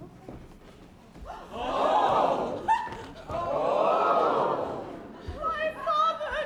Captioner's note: crowd gasps